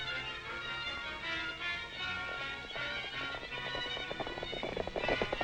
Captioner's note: horses galloping